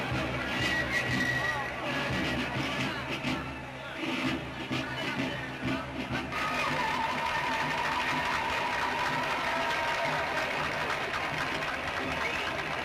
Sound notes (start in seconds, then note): 6.4 audience applauding and cheering